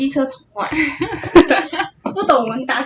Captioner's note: laughter